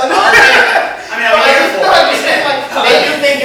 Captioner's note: laughs